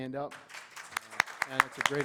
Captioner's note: applause